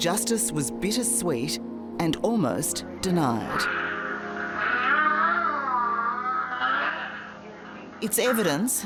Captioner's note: screaming